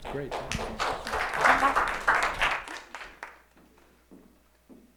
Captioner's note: applause